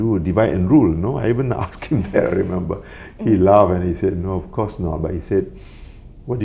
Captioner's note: laugh